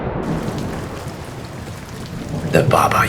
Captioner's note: thunder booming; rain pattering